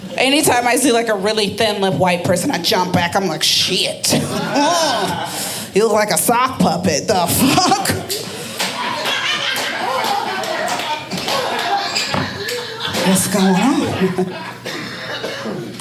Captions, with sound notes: Anytime I see like a really thin lipped white person, I jump back. I'm like shit, you look like a sock puppet. The fuck? (audience laughing) What's going on, people?